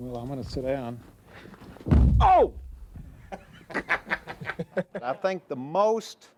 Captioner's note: laughter